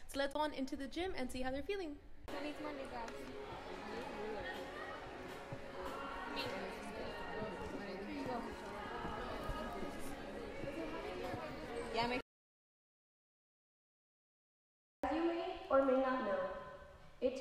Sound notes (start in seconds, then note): 2.4 crowd talking